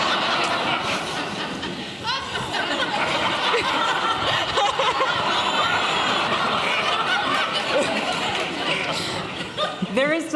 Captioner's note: laughter